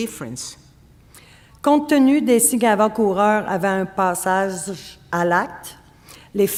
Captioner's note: speaking French